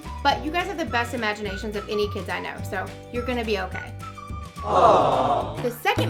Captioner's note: aww